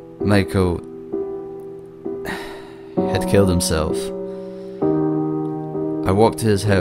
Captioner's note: sigh